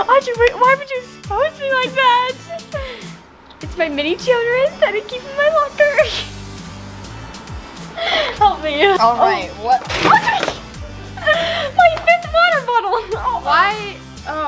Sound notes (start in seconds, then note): 6.1 giggles